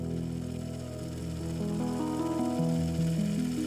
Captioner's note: film spooling sound